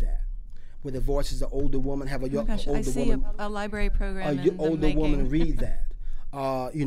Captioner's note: laughs